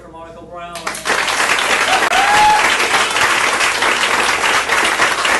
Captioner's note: all clapping and cheering